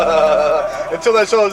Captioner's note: laughter